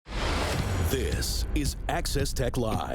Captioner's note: screen whooshing